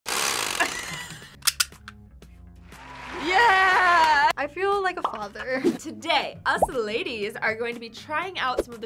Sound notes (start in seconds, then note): 0.1 chainsaw revs; 2.7 crowd cheers